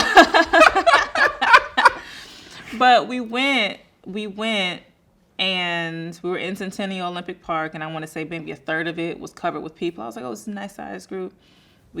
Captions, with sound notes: (both laughing) But we went and we were in Centennial Olympic Park. And I wanna say maybe a third of it was covered with people. I was like, "Oh, this is a nice size group."